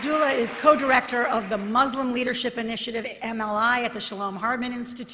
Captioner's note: applause